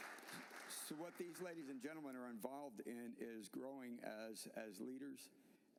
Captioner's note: applause